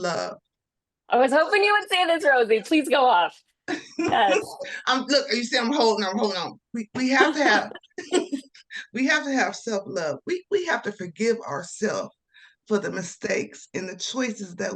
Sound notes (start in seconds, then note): 3.7 laughter